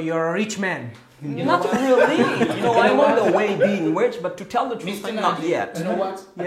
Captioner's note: Gülüşmeler